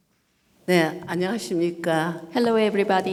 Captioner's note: speaking foreign language